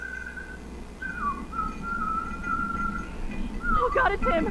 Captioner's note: melodious whistling as an axe is dragged over the floor tiles